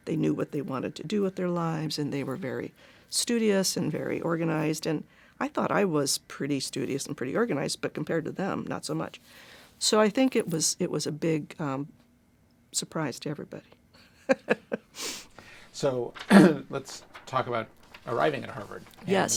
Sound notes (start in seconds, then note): 13.9 chuckles